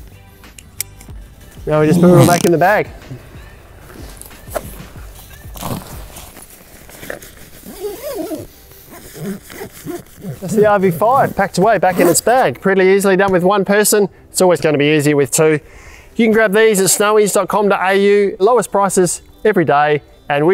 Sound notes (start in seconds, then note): 4.8 tent and bag rustling; 7.8 zippers fastening